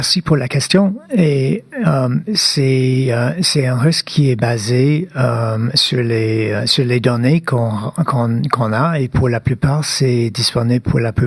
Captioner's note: speaking French